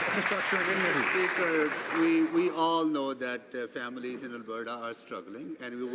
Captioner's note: some Applause